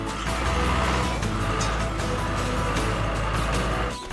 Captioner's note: engine Running